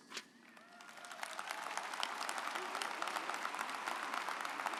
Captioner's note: audience applauds